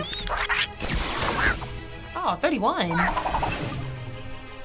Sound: gun firing

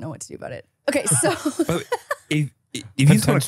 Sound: laughs

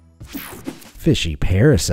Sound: image whooshing

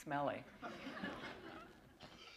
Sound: laughter

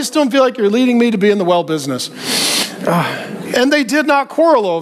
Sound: breathing deeply

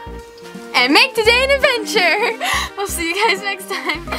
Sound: laughs

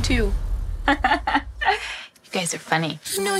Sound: laughing

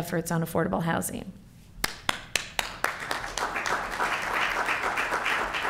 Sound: applause

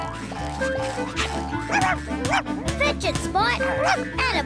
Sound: panting

